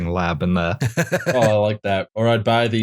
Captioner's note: laughter